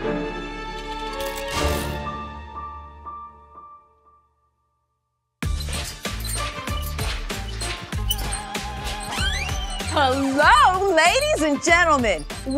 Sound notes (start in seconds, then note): 5.4 light music; 8.4 doors squeak